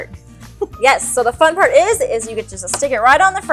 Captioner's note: laughs